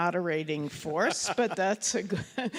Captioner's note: laughs